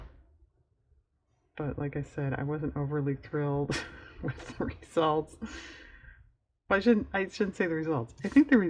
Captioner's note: laughs